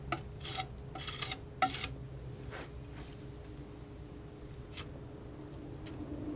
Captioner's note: scratching